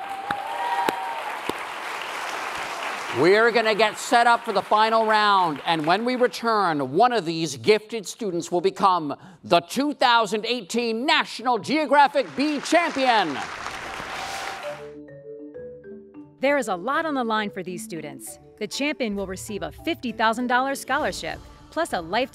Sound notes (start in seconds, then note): 0.0 applause and cheering; 12.0 applause